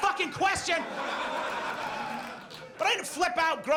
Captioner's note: audience laughs